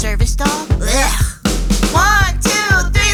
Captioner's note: retches